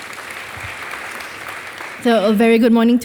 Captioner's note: audience applauding